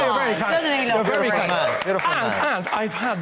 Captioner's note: applause